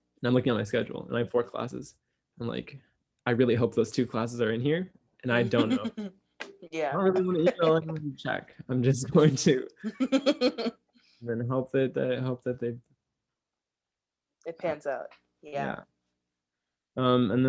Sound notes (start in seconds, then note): 7.0 laughs